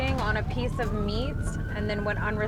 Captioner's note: none